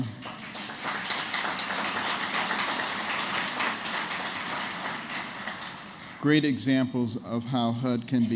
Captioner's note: applause